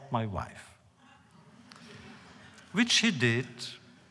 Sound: laughter

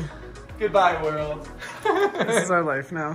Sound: laughs

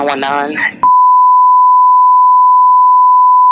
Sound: beeping

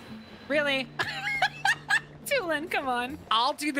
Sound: laughter

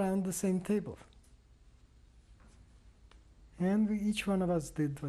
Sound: pauses for 3 seconds

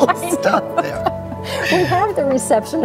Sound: both laugh

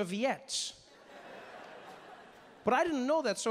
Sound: audience laughing

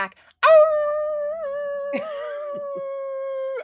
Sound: howls

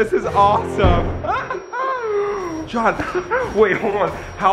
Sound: both laughing enthusiastically

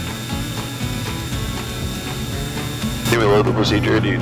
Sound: gentle country music continues; plane engine buzzing

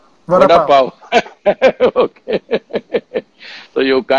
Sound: laughs

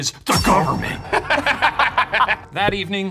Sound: laughing

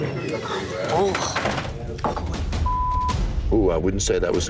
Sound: beep

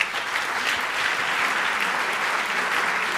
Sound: applauding

